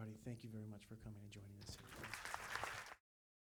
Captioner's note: audience applause